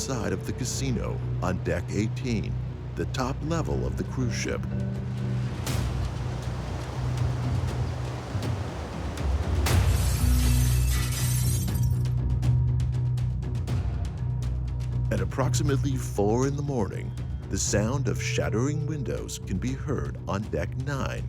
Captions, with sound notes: of the casino on Deck 18, the top level of the cruise ship. (tense music) (glass shattering) (tense music) At approximately four in the morning, the sound of shattering windows can be heard on Deck 9.